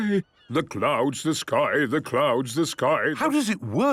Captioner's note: sing-sing voice